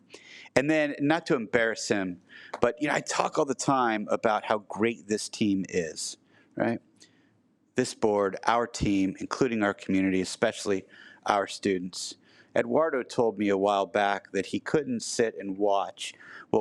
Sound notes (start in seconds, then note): none